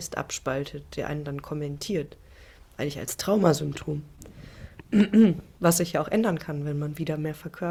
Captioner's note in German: räuspern